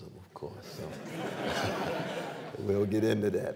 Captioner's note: laughter